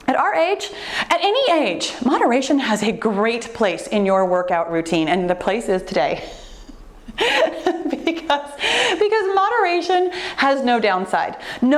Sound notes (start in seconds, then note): 7.0 laughs